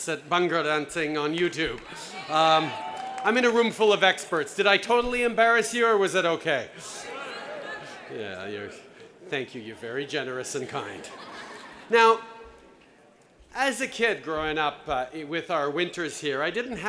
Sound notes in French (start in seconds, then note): 7.0 Cris de la foule; 10.6 Rires